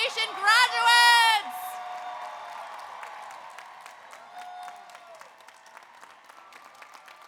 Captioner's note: audience applauds; audience cheers